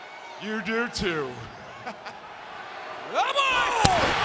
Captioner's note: laughs